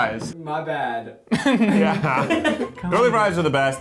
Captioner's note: laughing